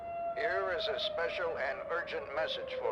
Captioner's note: radio Voice